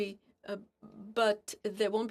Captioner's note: speaking FRENCH